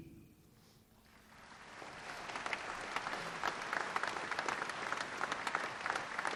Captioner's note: applause